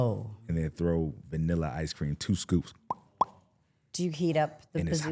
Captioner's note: pops lips